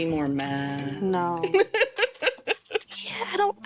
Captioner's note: laughing